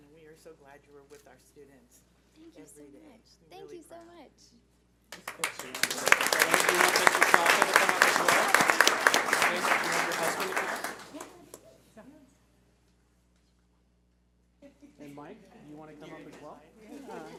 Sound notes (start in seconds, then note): 5.1 audience applauding; 9.9 people chattering; 17.1 laughing; 17.1 speaking softly